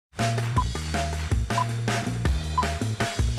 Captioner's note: beeping